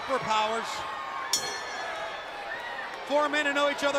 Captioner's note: bell ringing